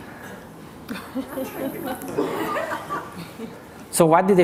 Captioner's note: laughter